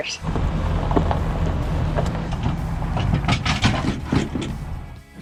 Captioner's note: car engine and clicking